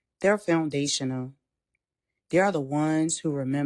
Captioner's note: pause